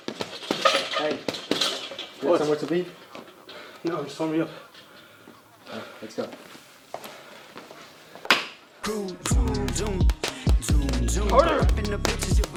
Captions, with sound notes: - Hey, you where you're supposed to be? - Yeah, just warming up. - All right, let's go. (man punching) - Harder!